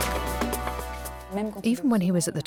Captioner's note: non-english speech